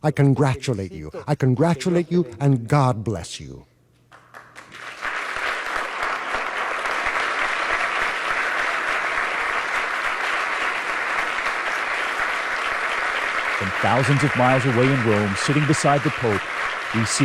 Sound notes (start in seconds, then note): 4.1 applause